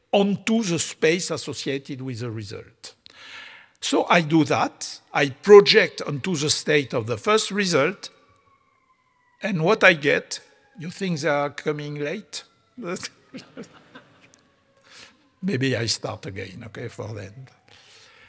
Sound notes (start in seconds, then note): 10.5 siren wailing; 13.3 audience laughing